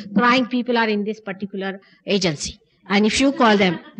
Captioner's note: laughter